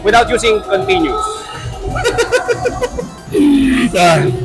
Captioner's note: laughs